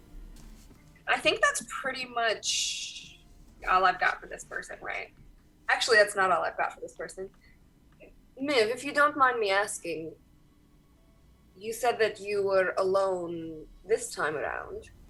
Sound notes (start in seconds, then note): none